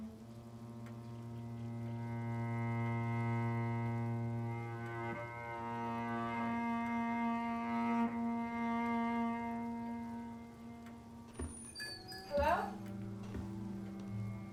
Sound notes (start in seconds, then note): 0.1 clock ticking; 9.2 somber music continues; 11.8 bells jingle